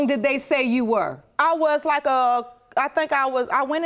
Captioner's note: stuttering